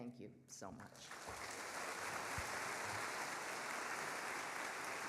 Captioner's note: audience applauding